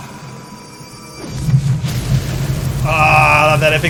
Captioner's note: fireball explosion